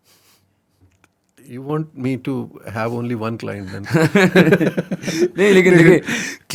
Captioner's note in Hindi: हंसी